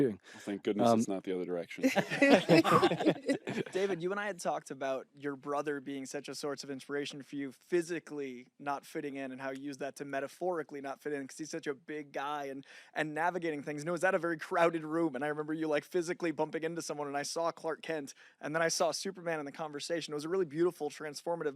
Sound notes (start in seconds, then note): 1.8 laughter